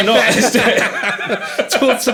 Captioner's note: all laughing